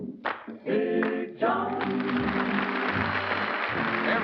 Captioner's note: applause